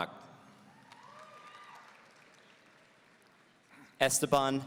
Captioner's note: audience cheering